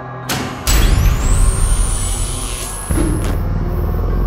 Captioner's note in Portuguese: Som de choque de alta tensão